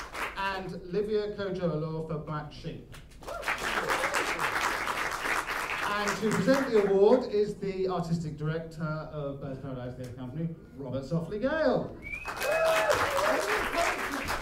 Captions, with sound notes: And Livia Kojo Alour for Black Sheep. [ APPLAUSE ] To present the award is the artistic director of Birds of Paradise Theatre Company, Robert Softley Gale. [ APPLAUSE ]